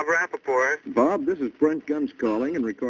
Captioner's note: on phone